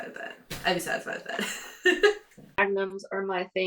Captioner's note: chuckles